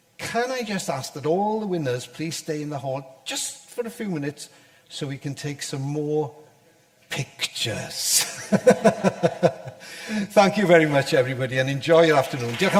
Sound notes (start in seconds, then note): 8.6 audience laughter